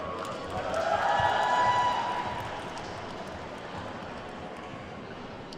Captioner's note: attendees whooping and clapping